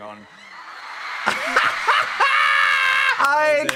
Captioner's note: audience cheering; laughing